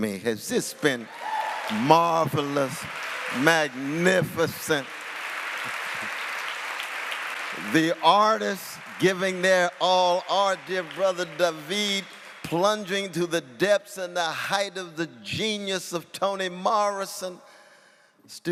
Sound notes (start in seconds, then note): 4.5 applause